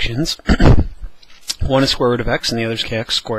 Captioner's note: cough